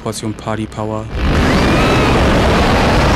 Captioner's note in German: Lautes Fauchen, Frauenschrei